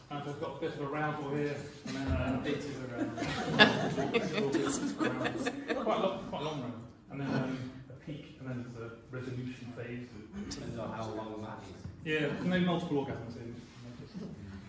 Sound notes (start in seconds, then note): 1.9 laughter